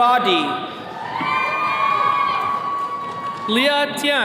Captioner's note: attendees cheering